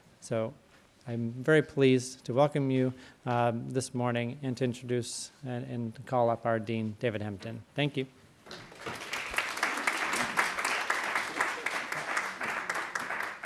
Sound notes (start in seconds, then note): 8.5 applause